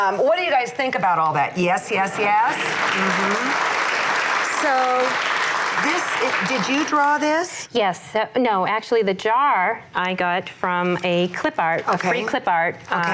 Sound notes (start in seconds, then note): 2.2 audience applauds